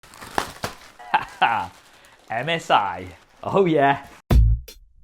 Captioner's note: laughing; enthusiastic music